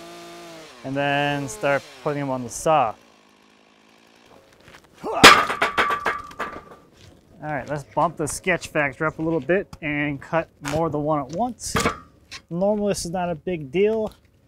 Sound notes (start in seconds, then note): 5.1 metal clangs